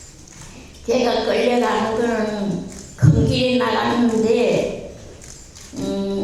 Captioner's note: speaking in foreign language